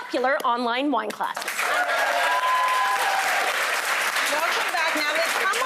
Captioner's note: audience applauding